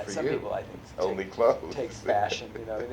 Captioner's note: laughs